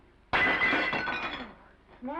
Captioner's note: plate shatters